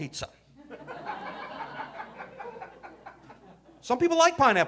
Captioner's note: audience laughing